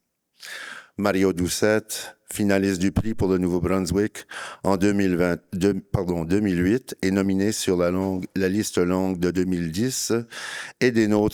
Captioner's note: speaking in French